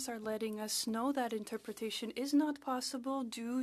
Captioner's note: speaking French